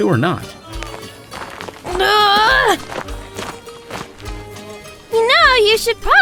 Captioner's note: walking